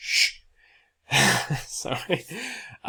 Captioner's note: speaker shushes